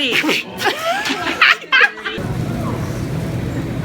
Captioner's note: laughs